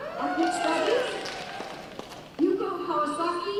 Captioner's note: cheering